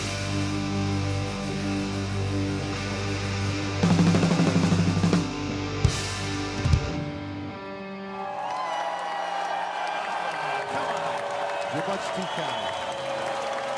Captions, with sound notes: (audience cheers) Come on! You're much too kind.